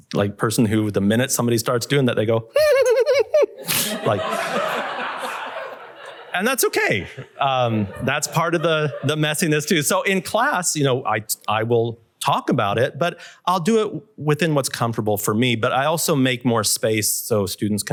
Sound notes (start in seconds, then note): 2.5 chuckling; 2.5 laughter